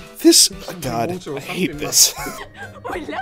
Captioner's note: wheeze